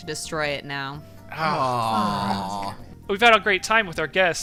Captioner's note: participants booing